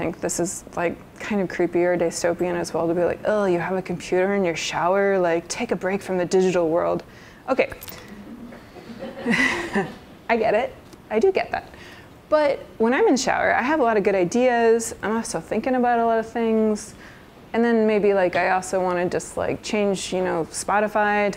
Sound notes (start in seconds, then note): 8.1 laughs; 8.5 laughter